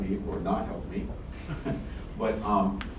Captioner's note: laughs